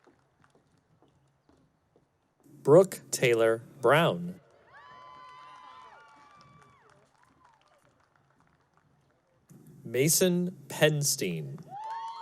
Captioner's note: cheering